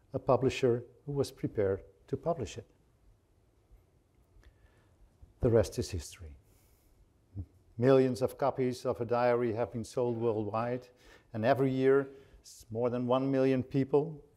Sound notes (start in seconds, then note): none